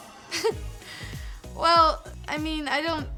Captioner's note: laughs